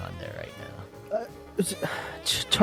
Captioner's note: stutters